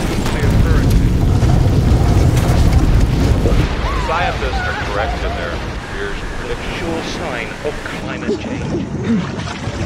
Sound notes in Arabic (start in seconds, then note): 0.0 صوت تأجج النيران وأصوات احتراق; 3.6 صراخ عالٍ